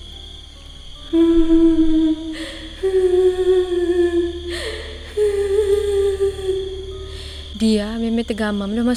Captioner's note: sound of crying